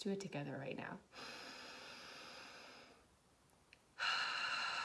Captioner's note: deep breathing